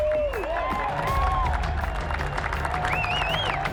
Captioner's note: cheering and applause